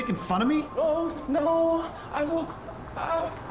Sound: in robotic voice

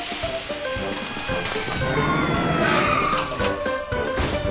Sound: radio crackling; siren blaring

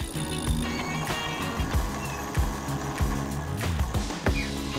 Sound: electric winch cranks

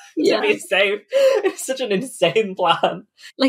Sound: laughing

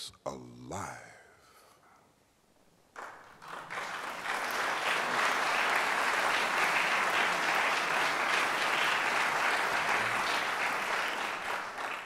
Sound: applause

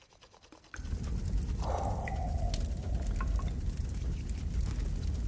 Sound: fire crackling

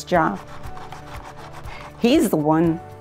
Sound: brush crunching

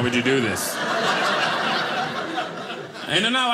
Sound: audience laughing

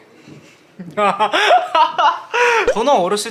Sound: hahaha

